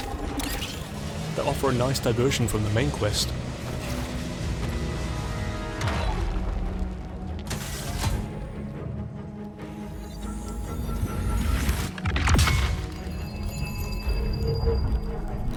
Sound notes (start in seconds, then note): none